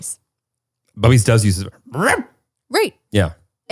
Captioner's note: barks